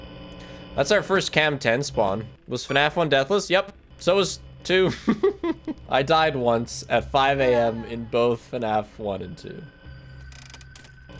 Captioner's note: laughs